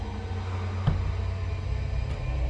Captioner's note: distant ghostly voices